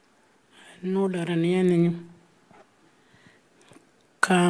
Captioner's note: speaking Anmatyerr